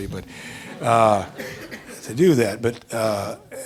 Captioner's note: audience laughing